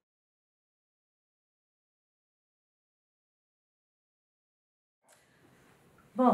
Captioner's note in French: silence